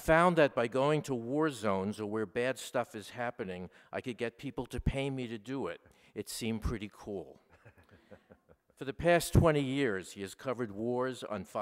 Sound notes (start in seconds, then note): 7.4 laughter